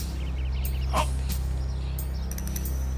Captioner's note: groans